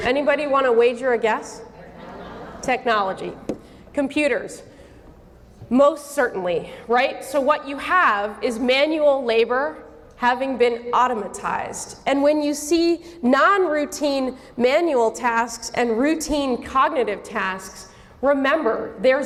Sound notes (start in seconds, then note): 1.8 audience murmuring